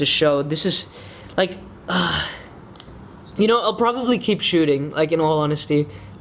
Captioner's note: sighs